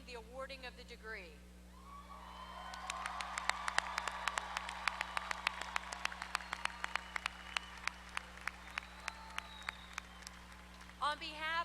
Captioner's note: applause